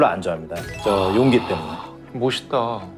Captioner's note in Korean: 반짝이는 효과음